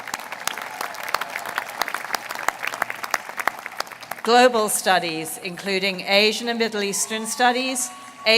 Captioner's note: applause